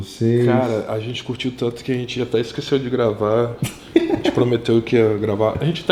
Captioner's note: haha